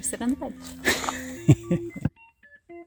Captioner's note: laugh